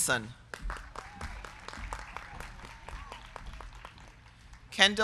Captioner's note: crowd clapping